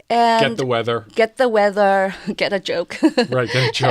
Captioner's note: laughs